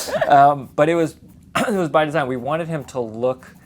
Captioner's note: laughs